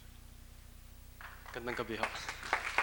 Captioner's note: applause; speaking tagalog